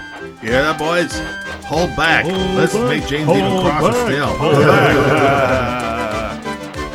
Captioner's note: laughs